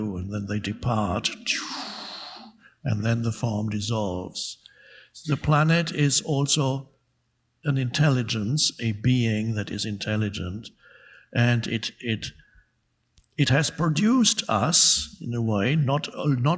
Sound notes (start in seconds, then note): 1.2 imitates atoms and molecules whooshing